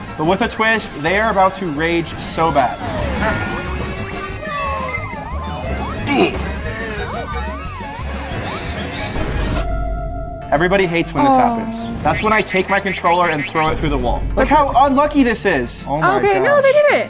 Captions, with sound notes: but with a twist, they are about to rage so bad. (engine whirring) (Princess Peach exclaims) (Wario grunts) (Princess Peach exclaims) (air whooshing) (explosion rumbles) Everybody hates when this happens. - Oh. - That's when I take my controller and throw it through the wall. Look how unlucky this is. Oh my gosh. - Okay, no, they did it.